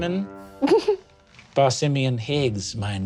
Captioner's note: snickers